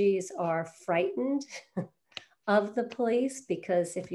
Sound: chuckles

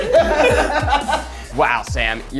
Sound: laughs

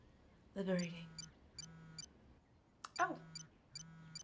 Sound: cellphones buzzing

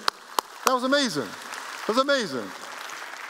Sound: applause

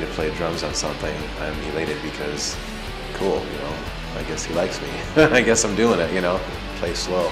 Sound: laughs

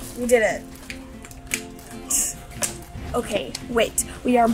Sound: hands slap together

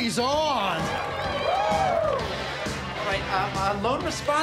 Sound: crowd whooping

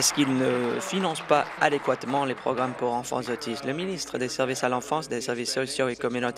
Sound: applause

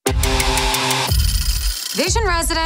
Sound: old phone rings

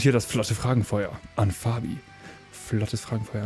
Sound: none

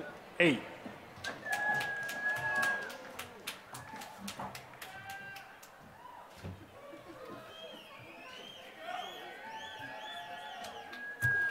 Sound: applause

